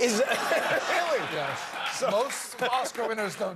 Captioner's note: laughter